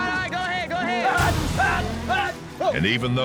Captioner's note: shouting